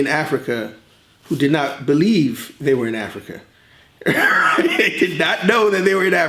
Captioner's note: laughs